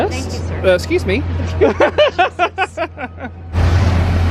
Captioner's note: laughing